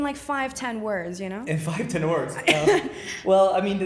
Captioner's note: laughing